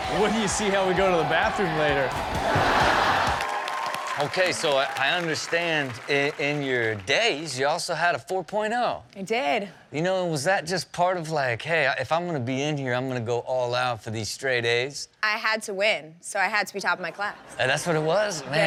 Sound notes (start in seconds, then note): 2.1 audience laughing; 3.7 audience cheering and clapping; 17.4 audience laughing